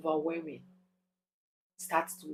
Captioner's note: paause